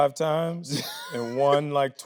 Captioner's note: Tyler laughs